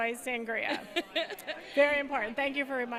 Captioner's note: laugh